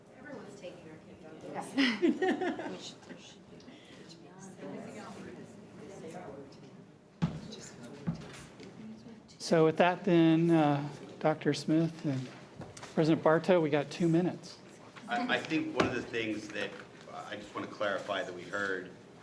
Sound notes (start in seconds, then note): 2.0 people chattering distantly